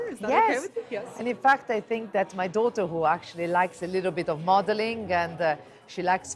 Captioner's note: in English